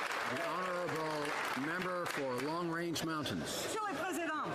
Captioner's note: some Applause